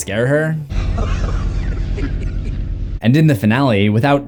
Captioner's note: creepy laughing